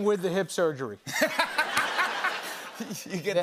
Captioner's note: laughter